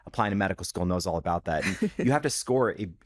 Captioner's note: chuckles